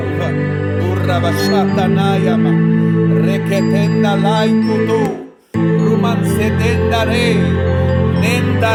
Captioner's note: hablando lenguaje espiritual